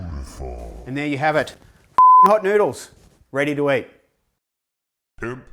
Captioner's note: beep